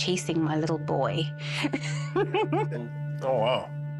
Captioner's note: laughs